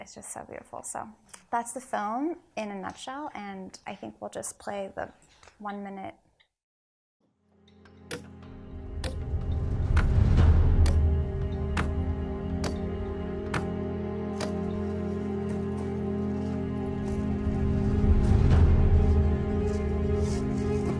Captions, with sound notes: It's just so beautiful, so that's the film in a nutshell, and I think we'll just play the one minute. (dramatic orchestral music) (hammer banging)